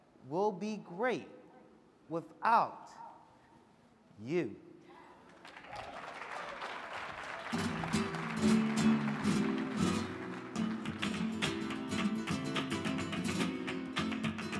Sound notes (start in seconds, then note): 6.1 audience clapping; 7.5 guitar strumming